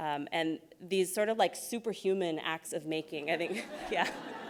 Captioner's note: laughs